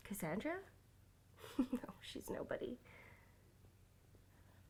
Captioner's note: snigger